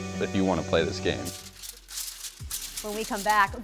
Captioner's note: paper rustles